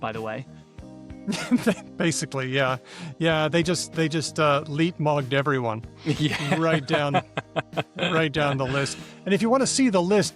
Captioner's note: laughs